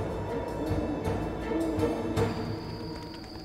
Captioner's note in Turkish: Baykuş sesi